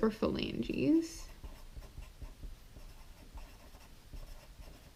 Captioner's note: pen scratching